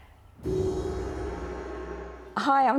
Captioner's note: gong chiming